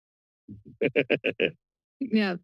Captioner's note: laughs